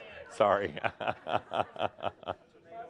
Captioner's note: Adamus laughs